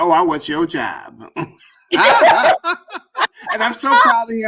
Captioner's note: laughter